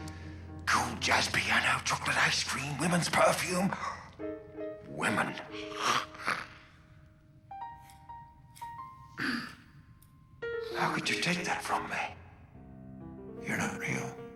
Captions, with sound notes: Cool jazz piano, chocolate ice cream, women's perfume. Women. [growls] [clears throat] How could you take that from me? You're not real.